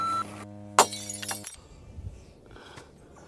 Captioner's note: beep; glass smashing